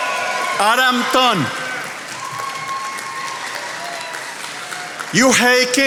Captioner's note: attendees applauding